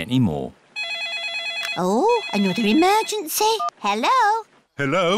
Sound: phone rings

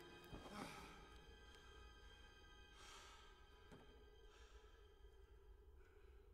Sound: carl breathing heavily

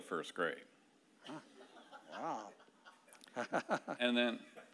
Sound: laughing

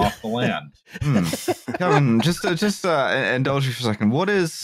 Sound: laughter

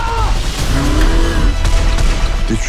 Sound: engine revs

